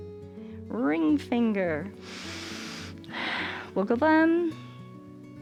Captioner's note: inhales